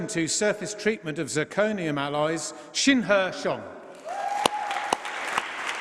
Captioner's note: applause